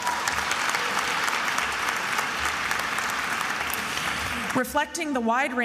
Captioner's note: attendees applauding and cheering